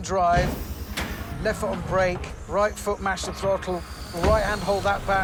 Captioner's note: whoosh